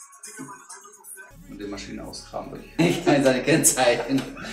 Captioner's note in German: lacht